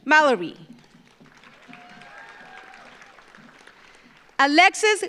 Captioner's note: audience applauds